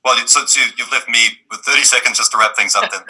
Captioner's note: laughs